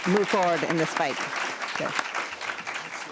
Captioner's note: attendees applauding; speaking faintly